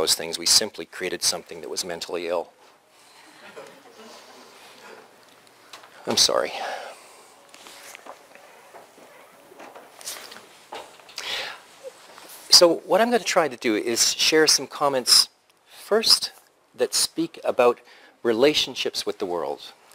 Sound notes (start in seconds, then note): 3.0 pause